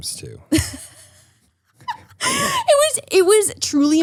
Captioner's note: laughs